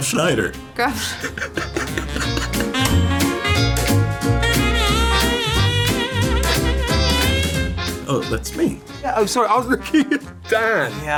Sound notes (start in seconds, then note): 0.9 laughing; 1.0 both laughing